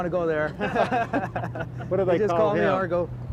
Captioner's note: laughing